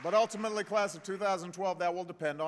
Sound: applause

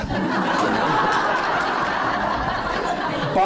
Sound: laughing

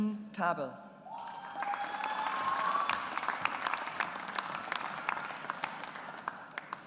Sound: audience applauds

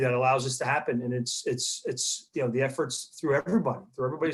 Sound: clears throat

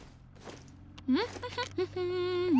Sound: humming

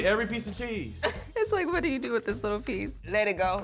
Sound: laughs

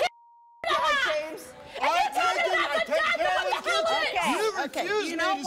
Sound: screaming over one another

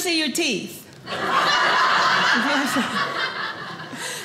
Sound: audience laughing

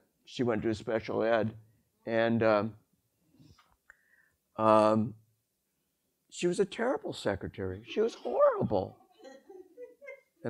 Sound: audience laughter

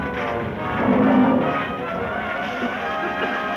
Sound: lion roars; men coughing

